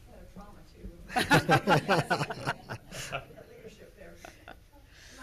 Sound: loud laughter

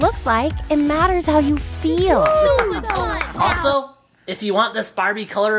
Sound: applauding

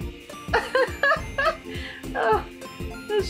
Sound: laughter

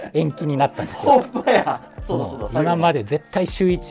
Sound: laughing

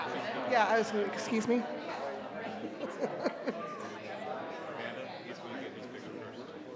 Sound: chuckles; crowd chattering continues

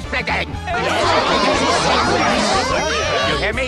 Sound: more group chatter

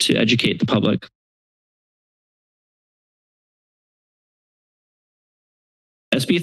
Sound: silence

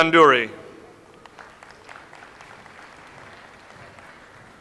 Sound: audience applauds

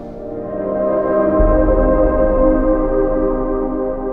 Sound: ethereal humming

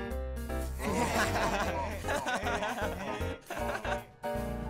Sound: everyone laughs

